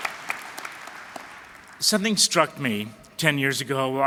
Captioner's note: applause